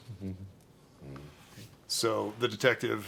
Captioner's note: moans